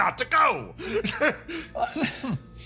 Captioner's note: laugh